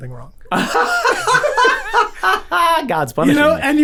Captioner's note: men laughing